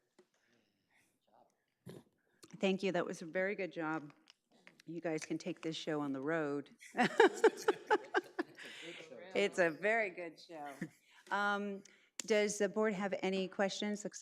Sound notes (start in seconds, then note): 6.9 group laughing